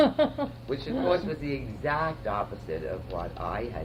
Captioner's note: laughter